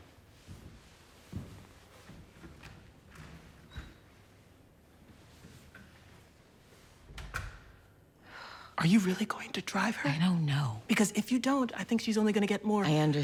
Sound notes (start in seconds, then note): 7.1 door closes; 7.1 sighs